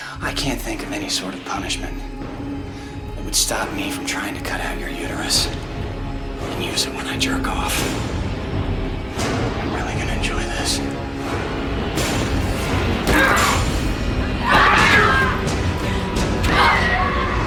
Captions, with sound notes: I can't think of any sort of punishment... ...that would stop me from trying to cut out your uterus... ...and use it when I jerk off. I'm really going to enjoy this. (struggling) (screaming)